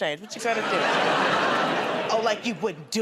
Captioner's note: laughter